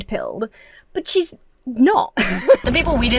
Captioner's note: laughs